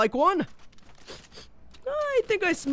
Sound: sniffing

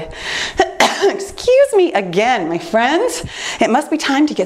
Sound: coughs

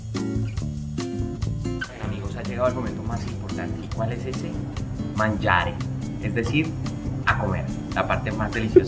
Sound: Italian

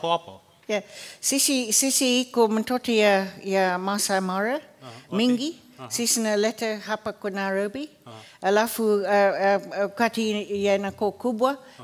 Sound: speaking swahili

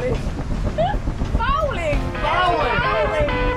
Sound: laughs

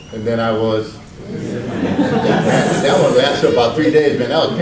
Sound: audience laughs

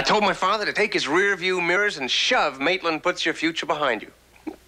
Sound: chuckles

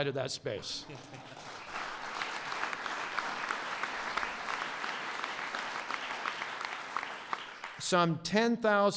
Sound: applause

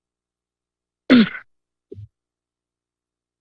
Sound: silence; clears throat; silence

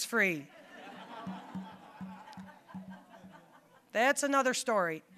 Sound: audience laughing

